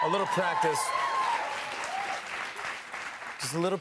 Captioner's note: cheers and applause